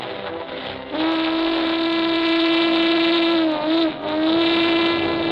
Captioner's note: train whistle blowing